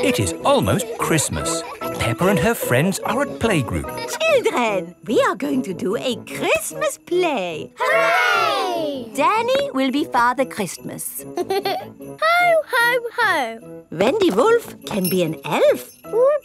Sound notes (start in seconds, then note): 11.3 giggles